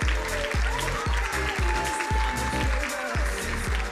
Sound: crowd cheering drowns out singer

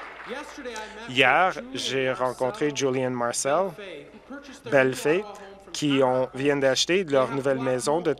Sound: applause

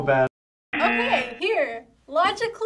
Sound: buzzer rings

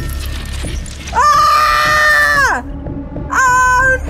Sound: screams

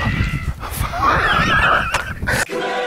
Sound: weird breathy F-Word of terror

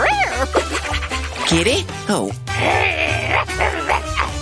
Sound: making happy sounds; roaring

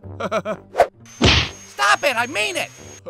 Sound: whoosh-thwack!

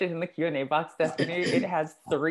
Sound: cough

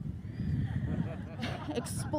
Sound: audience members chuckle

